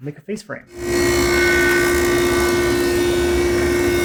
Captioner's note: saw whirring